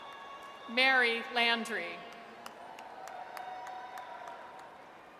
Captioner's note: audience cheers